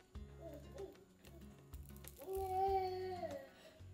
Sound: peaceful music continues; baby moaning

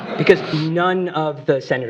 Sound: laughter

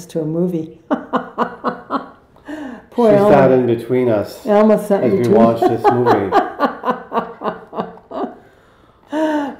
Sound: laughing

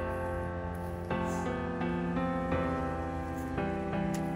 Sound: exhales

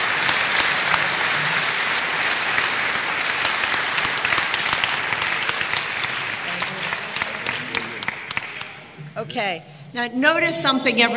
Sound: applause

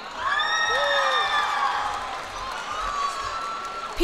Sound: cheers and applause

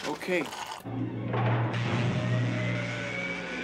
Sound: electrical Sputtering

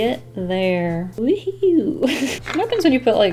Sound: laughs

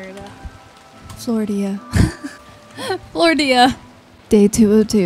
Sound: laughs

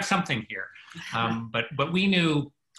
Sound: chuckles

